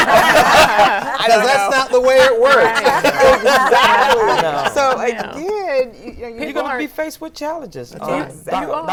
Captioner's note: laughter